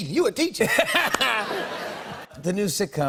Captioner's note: laughter